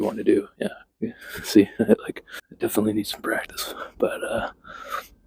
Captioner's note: chuckles